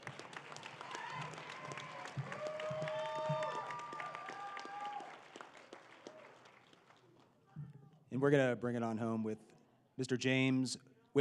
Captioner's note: applause